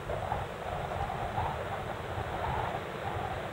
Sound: wind rustling

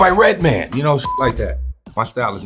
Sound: beeps

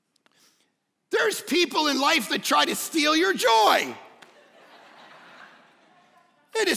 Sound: congregants laugh

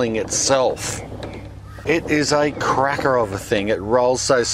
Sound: sifter rattles

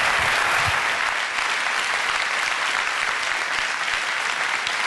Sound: audience clapping

